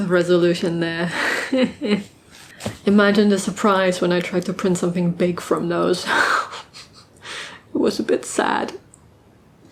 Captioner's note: laughs; disappointed laugh